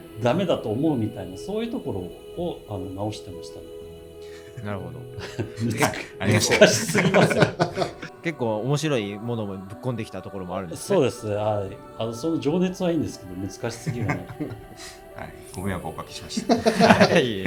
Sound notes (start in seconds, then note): 7.8 laughs